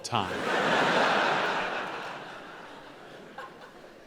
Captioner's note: audience laughing